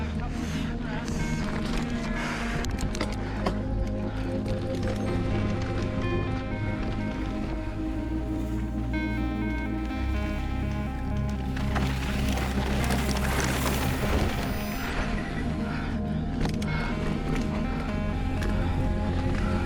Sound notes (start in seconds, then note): 2.2 panting; 3.9 suspenseful music